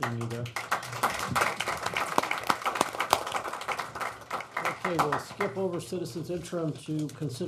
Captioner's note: applause